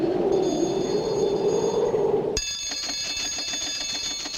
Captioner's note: ringing